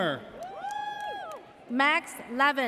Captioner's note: audience cheers